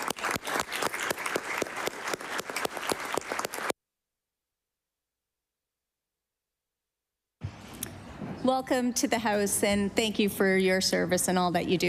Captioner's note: applause